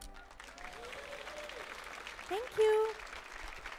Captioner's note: audience applauding